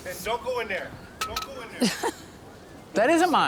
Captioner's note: laughs